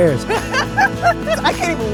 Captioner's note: laughs